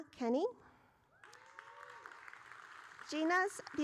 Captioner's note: audience cheering